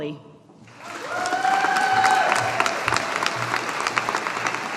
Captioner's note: audience applauding